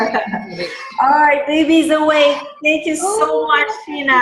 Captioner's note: baby crying